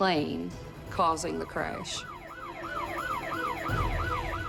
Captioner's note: siren wailing